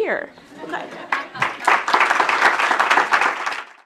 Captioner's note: audience laughing and clapping